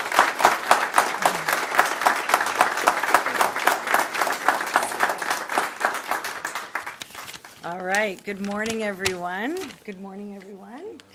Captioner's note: applause